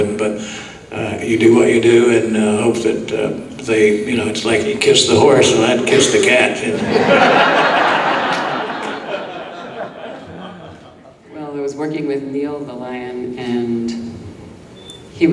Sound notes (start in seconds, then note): 6.7 audience laughing